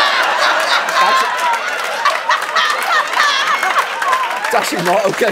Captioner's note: laughing